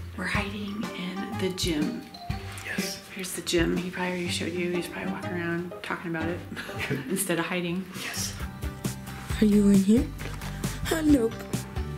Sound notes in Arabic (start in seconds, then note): 6.5 الضحك